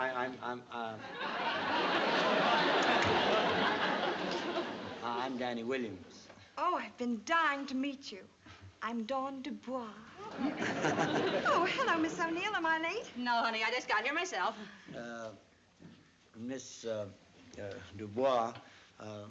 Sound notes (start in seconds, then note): 10.2 laughing